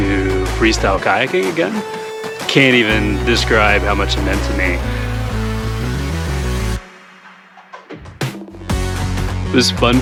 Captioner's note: applause